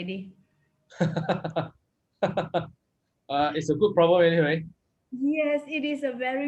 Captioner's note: laughs